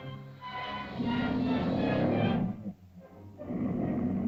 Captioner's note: dramatic music; lizard growls